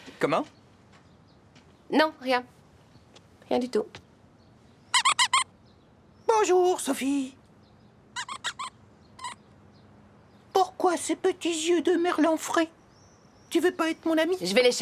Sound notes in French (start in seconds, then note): 4.6 grincement; 6.0 d'une voix aiguë; 8.2 grincement